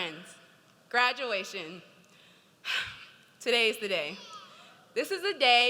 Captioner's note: sighs